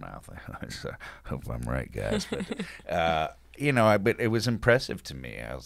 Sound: laughing

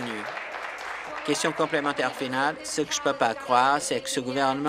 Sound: applause

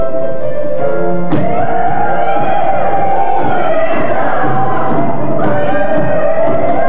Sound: music, cheering, whooping

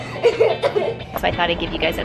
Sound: laughing

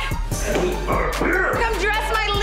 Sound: grunting

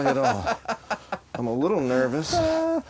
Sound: laughing

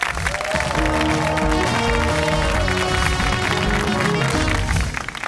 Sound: cheers and applause

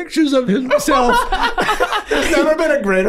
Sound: Glenn laughing

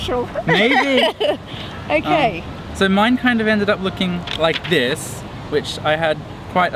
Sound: laughing

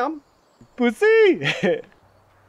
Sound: chuckles

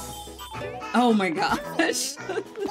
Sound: laughs

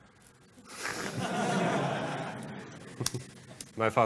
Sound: laughter

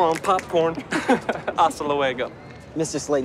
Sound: both laugh

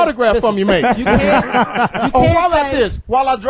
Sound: all laugh

